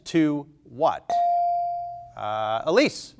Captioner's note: buzzer chimes